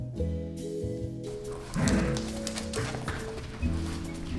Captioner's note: dog growls